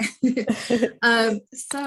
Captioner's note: laughter